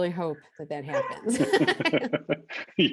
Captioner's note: laughing in unison